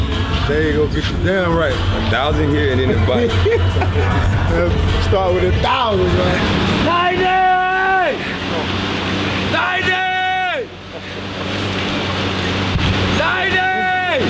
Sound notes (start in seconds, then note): 2.8 laughter